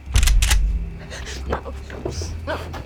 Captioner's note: shotgun clicks